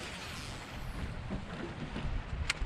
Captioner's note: rod whipping; reel spinning